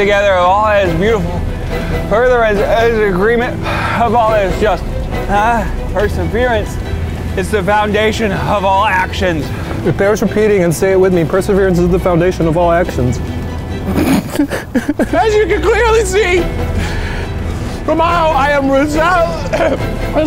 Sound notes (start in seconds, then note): 13.8 sobbing; 19.4 burping